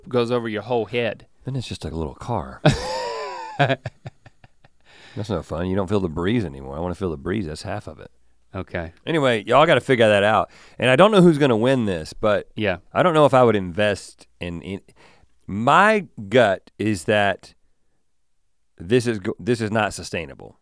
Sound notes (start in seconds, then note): 2.6 chuckles